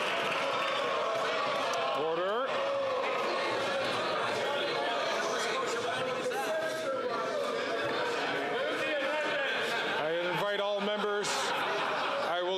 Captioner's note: some Applause